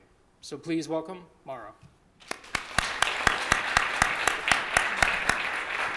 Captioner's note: applause